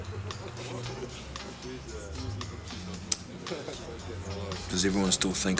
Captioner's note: crowd laughing and chattering